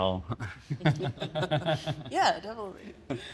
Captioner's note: laughs